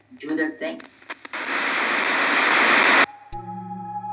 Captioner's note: static crackling; mysterious music